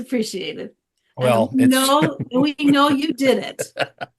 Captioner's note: chuckles